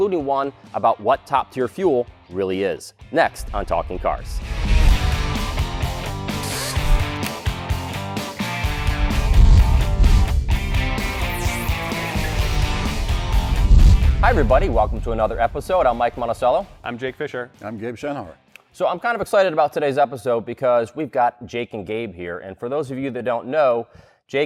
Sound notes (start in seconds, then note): 5.9 buzzing; 6.9 click